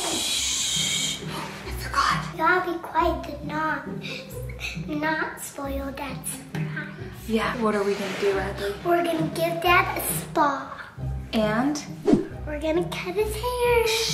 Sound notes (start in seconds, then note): none